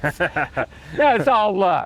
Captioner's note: interviewer laughing